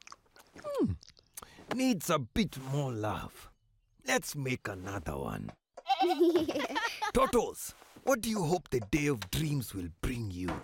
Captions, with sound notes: Hmm. Needs a bit more love. Let's make another one. (bleating, laughing) Totos. What do you hope the day of dreams will bring you?